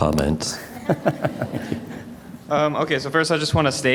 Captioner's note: audience laughter